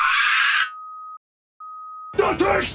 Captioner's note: screeches; beeping